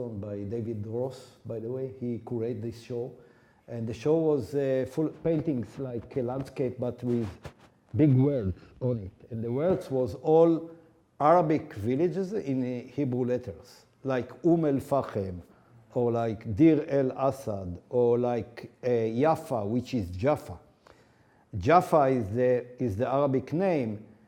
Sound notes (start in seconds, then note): 14.4 speaking foreign language